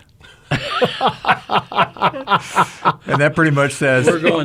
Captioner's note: all laugh